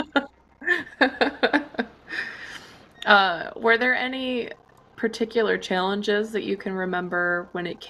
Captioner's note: laughs